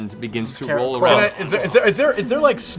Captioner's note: zombie groan